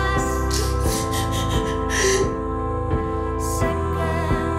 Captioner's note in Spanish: Sollozos